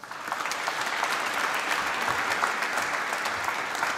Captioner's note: applause